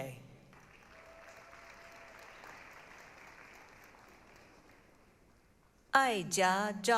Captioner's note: applause, cheering